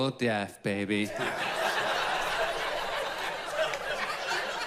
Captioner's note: audience laughs